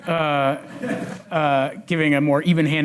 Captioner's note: audience laughs